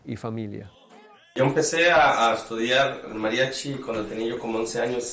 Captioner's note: speaking in Spanish